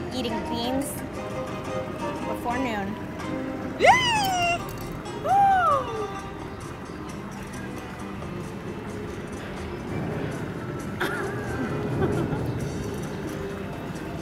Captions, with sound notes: eating beans before noon. (exclaims with horror) (laughing)